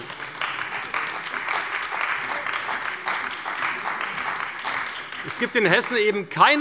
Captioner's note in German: Beifall bei der CDU und dem BÜNDNIS 90/DIE GRÜNEN